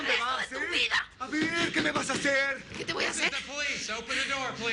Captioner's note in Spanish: Golpean la puerta